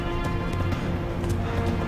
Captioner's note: running footsteps